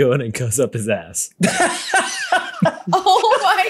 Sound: laughing

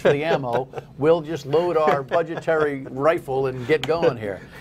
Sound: laughter

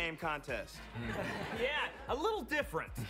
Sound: audience laughs

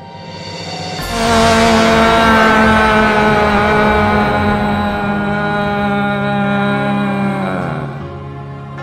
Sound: screams

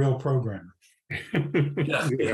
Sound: laughs

